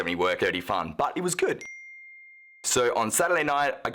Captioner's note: ding